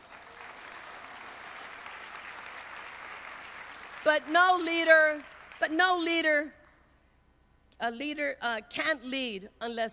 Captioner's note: applause